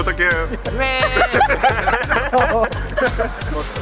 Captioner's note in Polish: śmiech